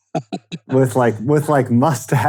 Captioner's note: laughing